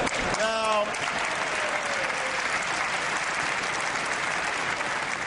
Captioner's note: applause